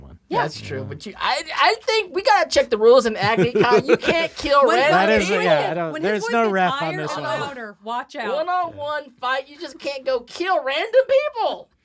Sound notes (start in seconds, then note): 3.1 laughs